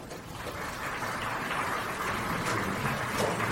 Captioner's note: applause